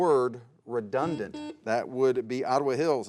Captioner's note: buzzer beeps